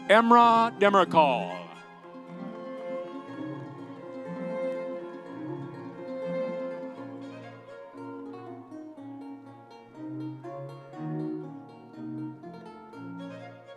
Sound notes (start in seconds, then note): 0.6 audience cheering